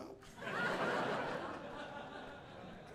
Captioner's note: audience laughing